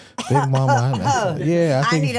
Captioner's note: Stephanie coughs